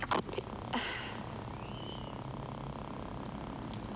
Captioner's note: Jessie sighing